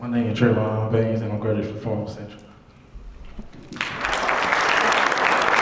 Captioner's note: applause